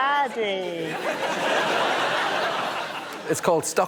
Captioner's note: laughter